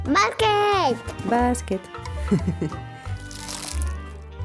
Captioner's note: giggle